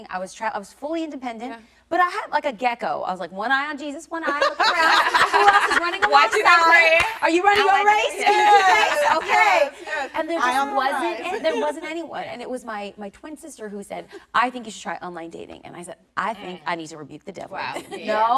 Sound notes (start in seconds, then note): 4.2 all laughing